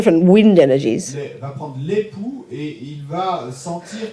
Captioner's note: audience member speaks in French